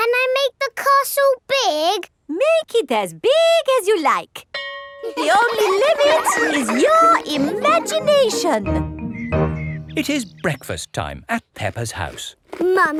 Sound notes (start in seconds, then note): 4.5 school bell rings; 5.0 children laughing